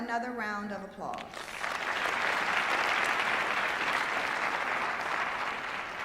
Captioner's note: applause